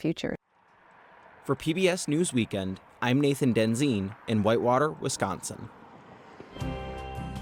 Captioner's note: voice-over